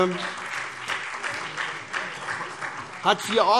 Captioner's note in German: Beifall SPD